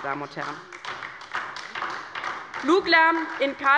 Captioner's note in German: Beifall bei der LINKEN